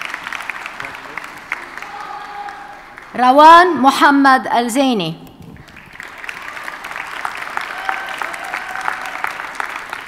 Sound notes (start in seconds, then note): 5.5 audience cheers and applauds